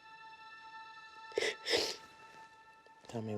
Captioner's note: sniffles